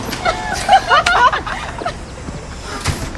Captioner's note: laugh